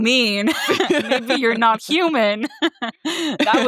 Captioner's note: both laughing